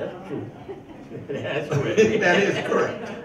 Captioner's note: chuckles; laughs